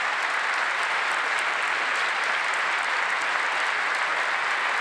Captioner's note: applause